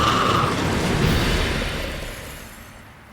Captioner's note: raspy screech; death rattle